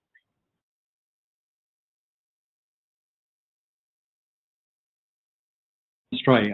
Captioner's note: audio drops